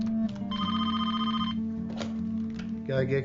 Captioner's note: phone rings